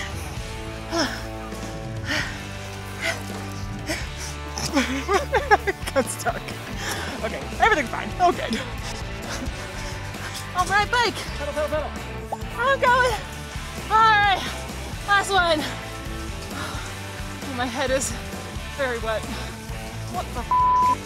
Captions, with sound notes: (pants heavily) (laughs) I got stuck. Okay, everything's fine, all good. On my bike! - Pedal, pedal, pedal! - I'm going, all right, last one! My head is very wet, what the (beeping).